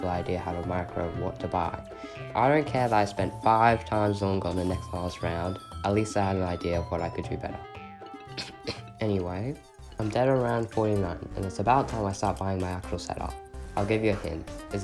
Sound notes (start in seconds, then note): 8.1 cough cough